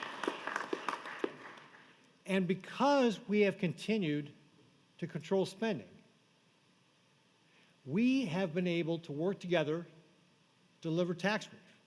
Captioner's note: applause